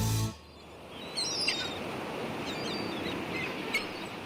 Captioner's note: seagulls squawking